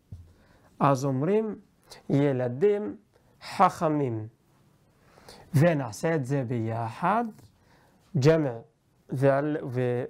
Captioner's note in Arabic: ערבית